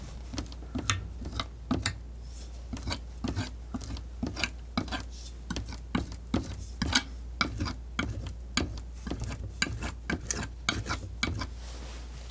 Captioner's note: tapping